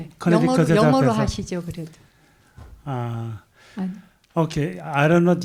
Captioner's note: audience member speaking in Korean; speaking in Korean